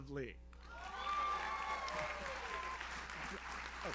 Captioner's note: audience cheers; audience applauds